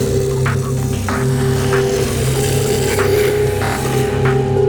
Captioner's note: zombies growling; dramatic music